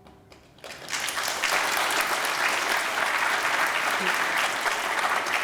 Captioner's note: applause